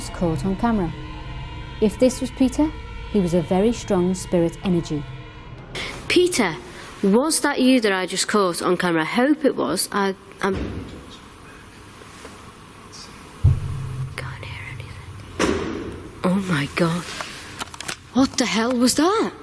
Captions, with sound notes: was caught on camera. If this was Peter, he was a very strong spirit energy. Peter, was that you that I just caught on camera? I hope it was. (bang) Can't hear anything. (thumping) Oh my god, what the hell was that?